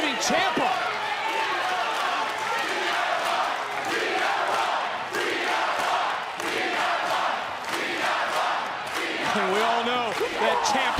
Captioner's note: crowd chants